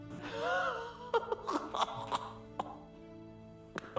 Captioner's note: laughing